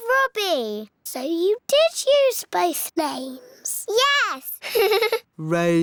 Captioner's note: laughs